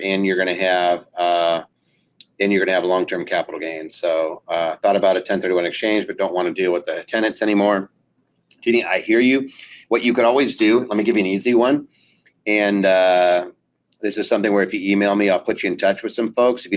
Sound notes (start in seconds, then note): none